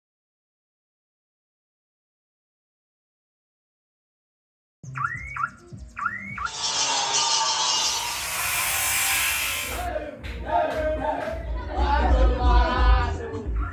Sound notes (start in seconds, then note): 4.9 car alarm; 6.5 buzz saw; 9.8 loud shouting